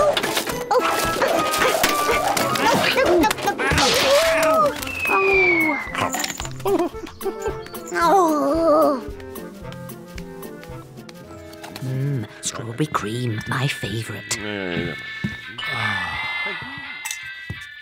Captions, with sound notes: (grumbles) Mmm, strawberry cream, my favorite! (music playing on radio)